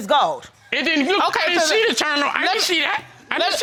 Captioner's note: stammering